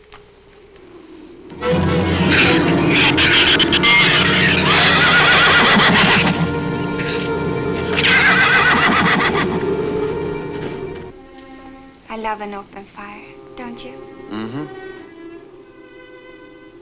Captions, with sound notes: (dramatic music) (shews screeching) (horse whinnies) I love an open fire, don't you? - Mm-hmm.